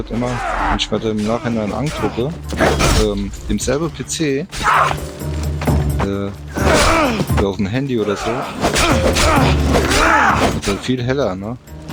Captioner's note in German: stöhnen